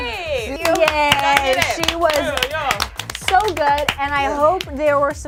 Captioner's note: group claps